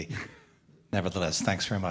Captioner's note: laughing